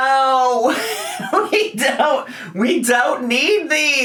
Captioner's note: laughs